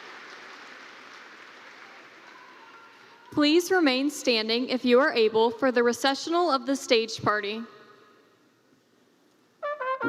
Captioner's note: cheers and Applause